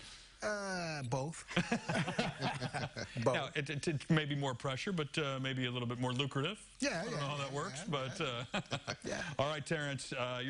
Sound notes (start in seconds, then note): 8.0 laughter